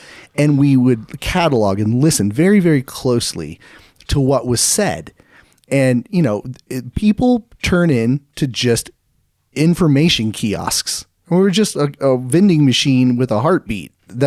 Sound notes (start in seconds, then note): none